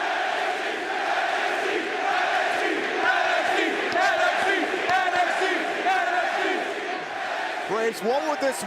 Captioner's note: crowd chanting